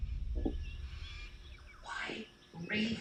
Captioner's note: birds calling